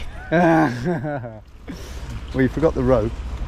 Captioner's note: group laughs